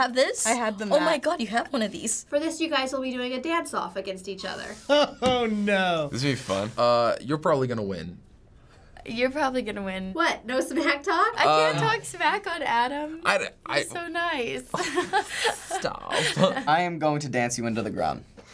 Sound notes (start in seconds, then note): 4.9 laughing; 14.7 giggling